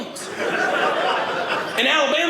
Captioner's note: audience laughing